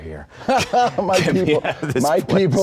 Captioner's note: laughing